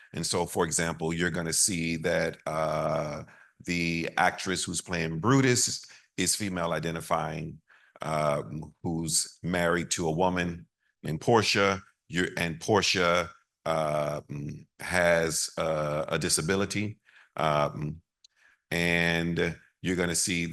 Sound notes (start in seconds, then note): none